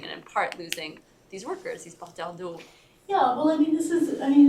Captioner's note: french